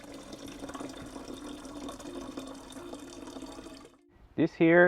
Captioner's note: water Running